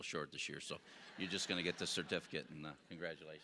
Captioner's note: audience laughing